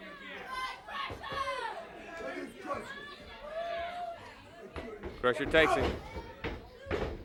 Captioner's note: crowd chatter